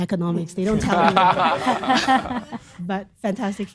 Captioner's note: laughter